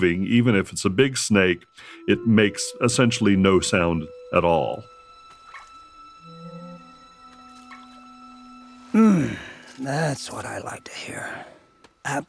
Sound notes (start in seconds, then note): 4.9 animal chirping; 4.9 ominous music; 8.9 Lutador moaning